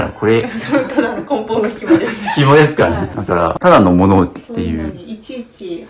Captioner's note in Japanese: 笑い